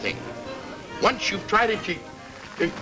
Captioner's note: whimpers